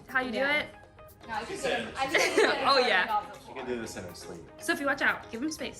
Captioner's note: talking